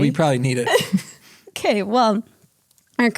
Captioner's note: both chuckles